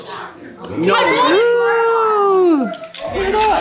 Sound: group chuckles and chatters

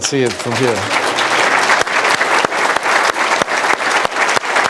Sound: applause

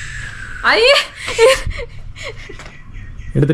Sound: laughs

